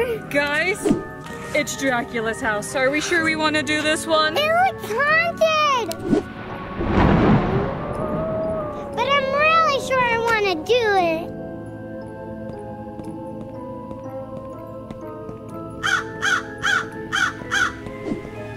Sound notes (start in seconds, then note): 6.0 screen whooshing; 6.0 thunder claps; 7.2 wolf howling; 11.9 footsteps pattering; 15.8 crow cawing